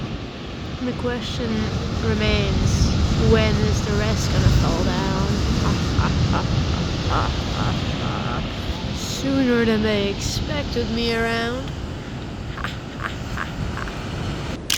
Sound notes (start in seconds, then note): 5.4 sinister laughter; 12.4 evil laughter